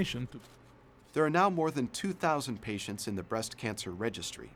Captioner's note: voiceover